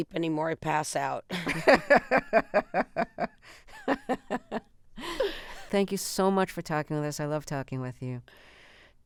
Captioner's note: laughter